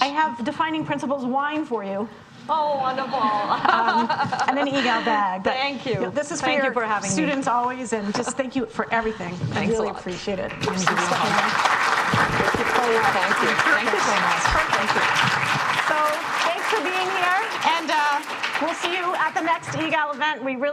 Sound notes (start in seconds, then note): 4.0 speaking faintly; 10.6 audience applauding; 12.8 speaking faintly off mic